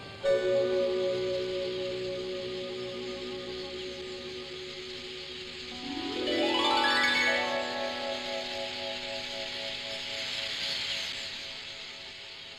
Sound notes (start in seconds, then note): 0.1 ominous tone; 0.2 birds chirping en masse; 5.7 harp chord